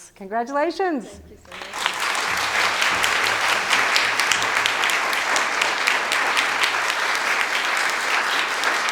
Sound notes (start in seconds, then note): 1.4 audience applauding